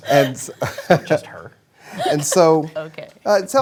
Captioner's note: laughter